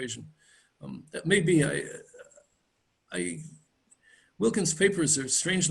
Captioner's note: stammers